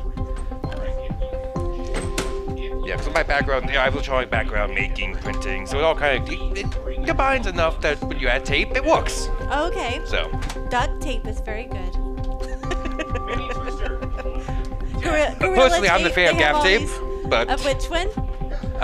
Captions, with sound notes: Yeah, because of my background, I have a Charlie background making printing, so it all kind of combines enough that when you add tape, it works. Okay. So. Duct tape is very good. (laughs) Personally, I'm the favorite of gaff tape. Of which one?